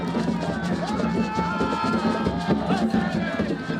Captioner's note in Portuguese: Homem gritando